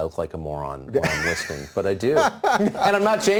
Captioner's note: Dave laughs